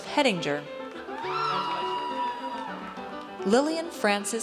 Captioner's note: audience cheers